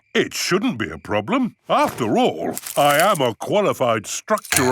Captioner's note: none